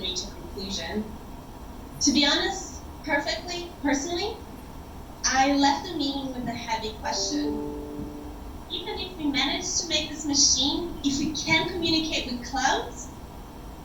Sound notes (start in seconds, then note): 7.1 computer beep